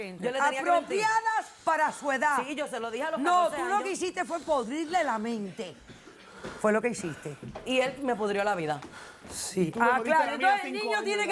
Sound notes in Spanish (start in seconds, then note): none